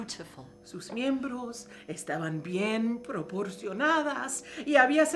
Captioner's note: speaking in foreign language